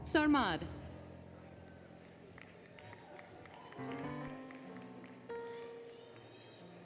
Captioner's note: applause, Cheering, Music